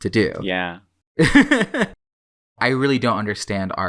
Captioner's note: laughs